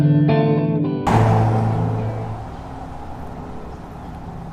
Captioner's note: noise of speeding cars, in the background